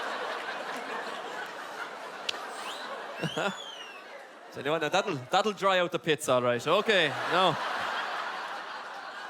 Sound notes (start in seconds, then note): 3.2 wolf whistl; 3.6 clicks tongu